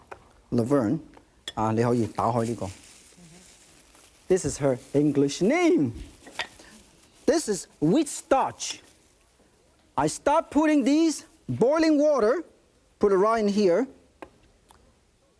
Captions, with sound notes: Laverne, (speaking in foreign language). This is her English name. This is wheat starch. I start putting this boiling water, put it right in here,